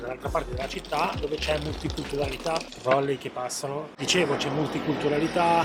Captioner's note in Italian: nel frattempo trolley che passano